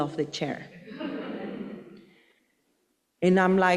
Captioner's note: audience laughing